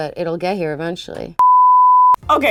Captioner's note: beep